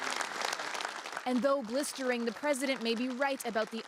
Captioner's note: applause